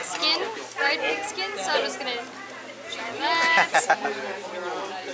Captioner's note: laughter